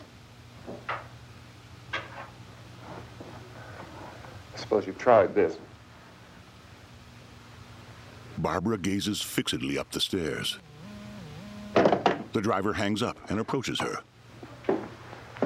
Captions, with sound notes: I suppose you've tried this. [strange tone]